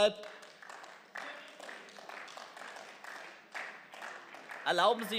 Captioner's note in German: Beifall